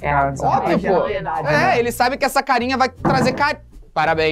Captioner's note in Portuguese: som de algo caindo